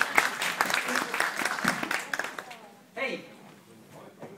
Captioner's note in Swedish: Applåder